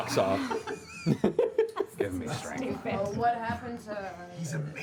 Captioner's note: laughter